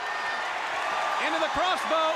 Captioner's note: crowd cheering